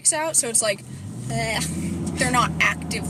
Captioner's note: gag sound